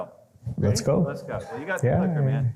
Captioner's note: laughs